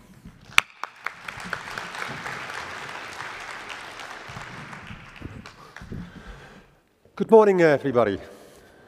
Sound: applause

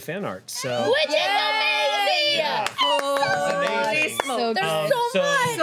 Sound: overlapping chatter

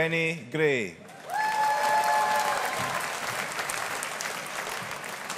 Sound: audience applauding

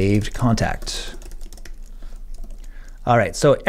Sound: keyboard typing

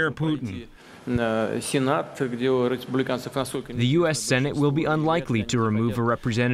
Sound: through translator

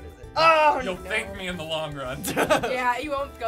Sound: laughing

